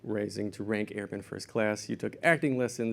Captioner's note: none